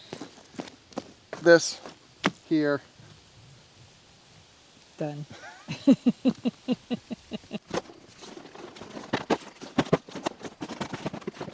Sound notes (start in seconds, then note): 5.3 laughs; 7.8 rustling